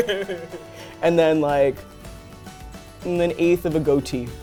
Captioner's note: laughs